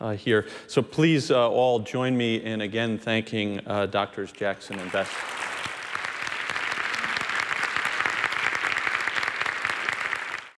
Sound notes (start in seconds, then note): 4.7 applause